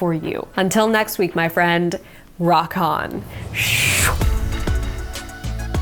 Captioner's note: whooshes; upbeat instrumental music